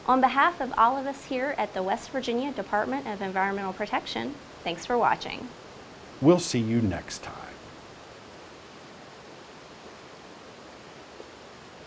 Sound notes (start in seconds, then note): 5.6 sounds of rushing water